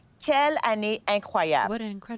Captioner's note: speaking French